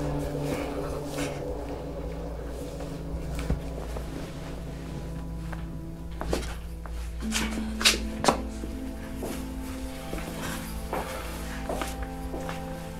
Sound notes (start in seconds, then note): 8.3 footsteps receding